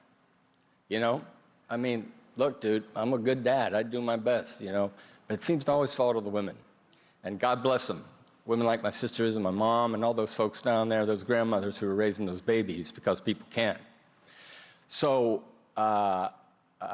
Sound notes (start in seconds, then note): none